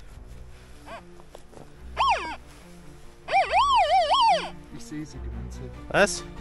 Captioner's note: squeaks